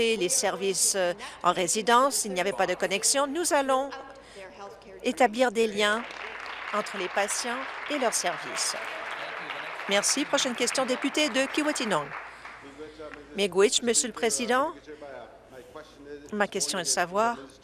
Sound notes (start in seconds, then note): 10.4 applause